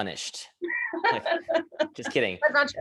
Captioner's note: laughter